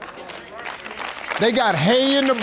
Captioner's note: audience claps